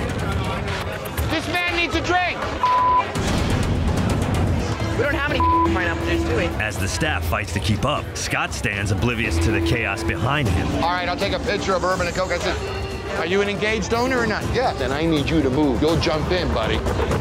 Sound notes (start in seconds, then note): 2.7 beep